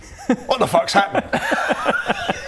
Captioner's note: laughs